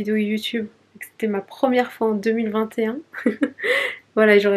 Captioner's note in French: rires